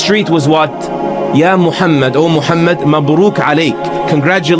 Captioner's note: speaking arabic